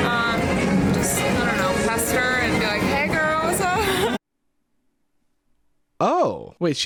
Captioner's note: laughs